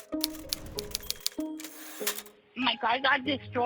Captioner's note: lighthearted music; typewriter typing; typewriter dings